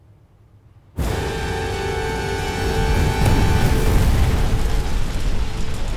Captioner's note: fire crackling; eerie ominous music